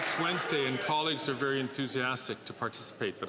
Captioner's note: some Applause